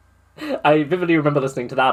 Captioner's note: laughs